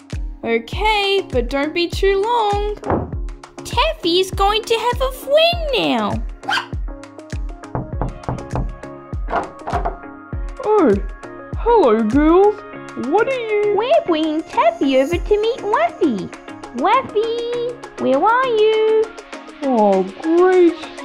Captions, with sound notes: Ok, but don't be too long (Slam!) Taffy is going to have a friend now! (Bark!) (Knock! Knock! Knock!) Oh, hello girls What are you... We're bringing Taffy over to meet Raffy Raffy, where are you... Oh great...